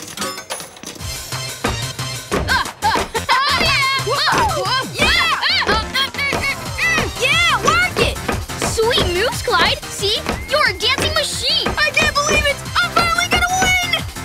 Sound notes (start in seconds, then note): 0.0 dinging; 1.2 dance music playing; 2.8 both yelling